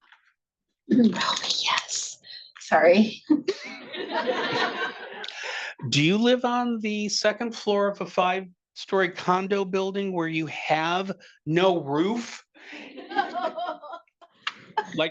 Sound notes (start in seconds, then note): 5.9 attendees laughing